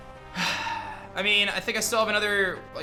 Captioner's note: sighs